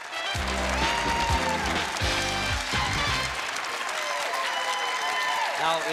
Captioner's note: applause and cheering